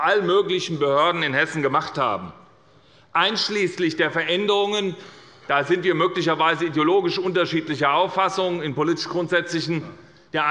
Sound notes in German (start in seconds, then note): none